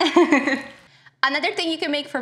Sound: laughs

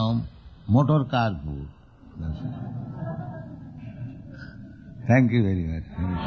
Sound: laughter

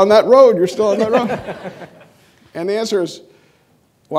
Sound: audience laughing

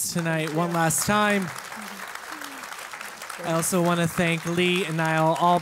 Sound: applause

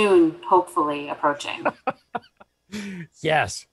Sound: laughter

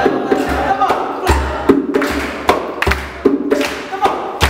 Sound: clapping

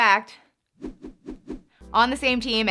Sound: hands whooshing

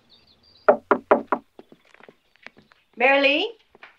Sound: knocking on door

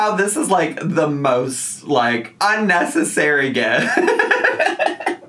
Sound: laughing

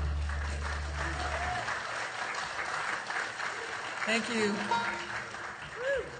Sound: audience applauding

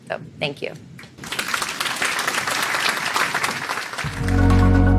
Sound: applauding

